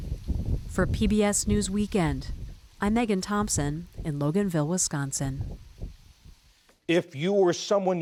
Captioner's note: voice-over